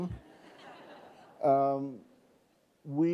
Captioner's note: laughing